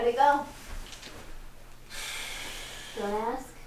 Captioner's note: exhales